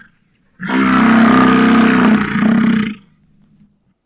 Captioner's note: bison roar